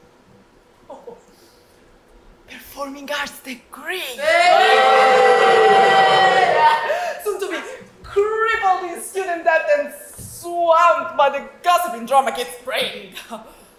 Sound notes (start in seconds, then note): 4.2 audience boos